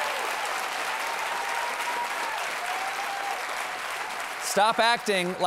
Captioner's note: cheers and applause